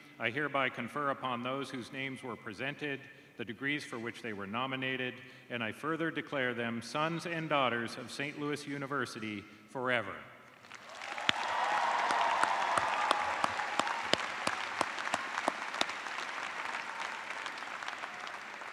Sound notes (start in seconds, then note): 5.5 cheers and applause